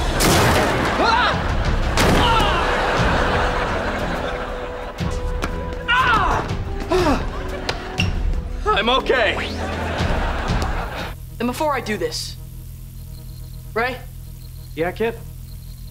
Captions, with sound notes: [screaming] [groaning] [groaning] I'm okay. And before I do this... Ray... Yeah, Kid?